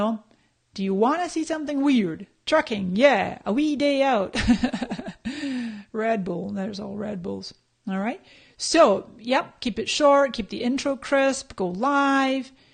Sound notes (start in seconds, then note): 4.4 laughs